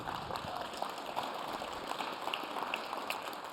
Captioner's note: applause